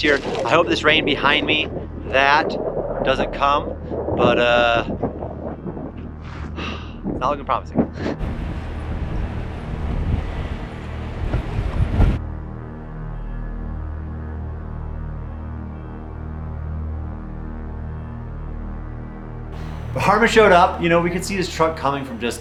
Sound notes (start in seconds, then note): 6.2 sighs; 9.1 ominous music